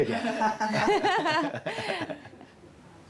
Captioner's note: laughter